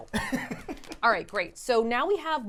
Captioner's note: laughing